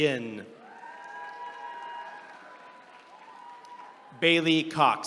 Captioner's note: attendees cheering